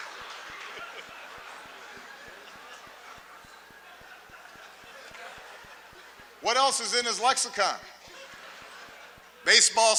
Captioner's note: laughter, applause